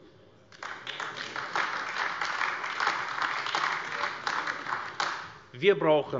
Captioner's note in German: Beifall AfD